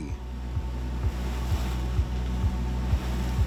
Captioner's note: sound of swells; rhythmic music